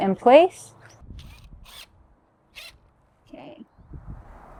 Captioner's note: drill whirring